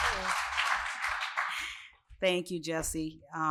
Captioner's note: applause